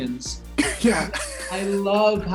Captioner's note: laughs